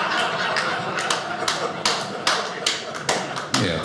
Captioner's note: audience laughing; man applauding